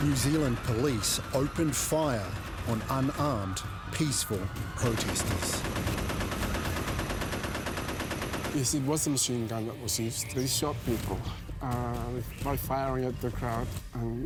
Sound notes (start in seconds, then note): 4.8 machine gun fire